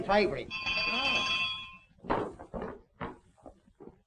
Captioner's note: bell ringing